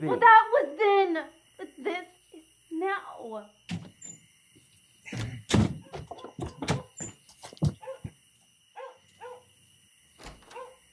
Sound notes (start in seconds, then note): 6.3 dog barking